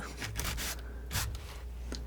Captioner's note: scratching